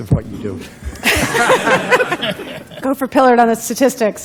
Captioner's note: laughter